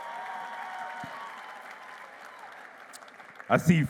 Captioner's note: applause